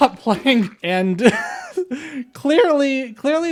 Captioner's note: laugh